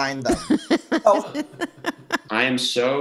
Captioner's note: laughs